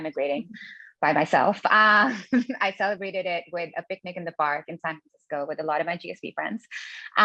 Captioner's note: laugh